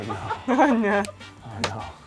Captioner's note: laughs